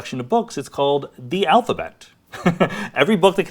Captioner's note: laughs